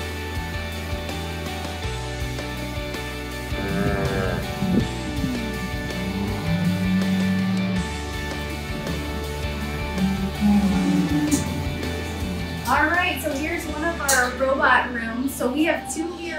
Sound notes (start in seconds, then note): 4.7 cows moo